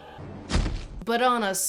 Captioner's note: sad thud